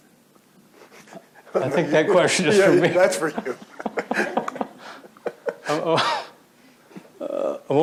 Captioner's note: chuckles